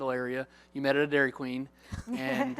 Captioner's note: laughter